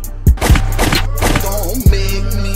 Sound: gun firing

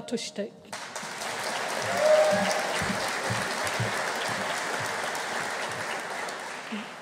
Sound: audience applauding; audience cheering

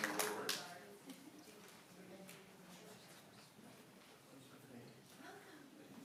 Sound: applause

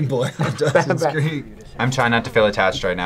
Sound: laughs

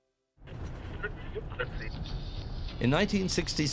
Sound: radio tuning

